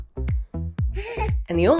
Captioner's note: giggles